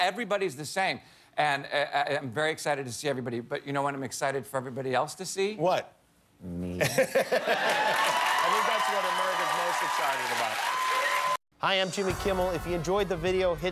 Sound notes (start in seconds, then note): 4.0 laughter